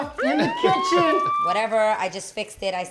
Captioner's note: laughing